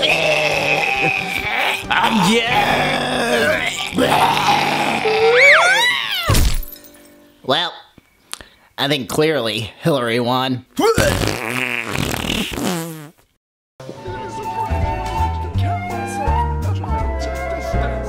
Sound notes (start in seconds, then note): 0.0 gagging; 6.3 crashing; 11.0 fart-like sputtering